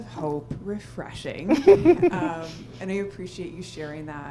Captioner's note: laughs